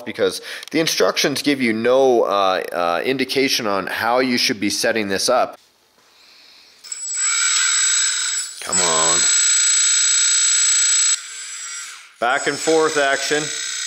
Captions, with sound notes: because the instructions give you no indication on how you should be setting this up. (High pitch whirring) Come on... (quieter whirring) Back and forth action.